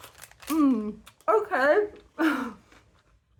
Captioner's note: laughing